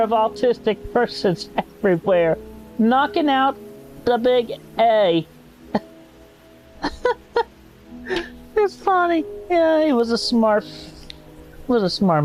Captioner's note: laughter